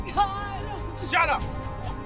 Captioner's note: continues crying